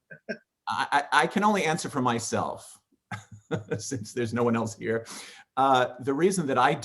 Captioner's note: laughing